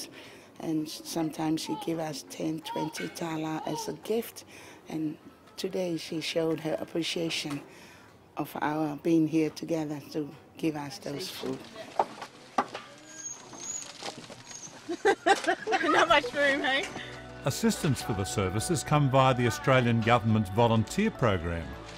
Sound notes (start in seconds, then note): 14.8 women laugh